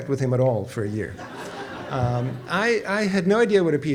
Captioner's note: audience laughs